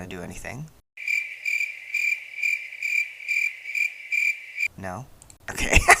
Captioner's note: crickets